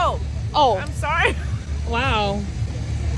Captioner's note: laughs